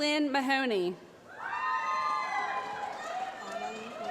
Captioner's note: applause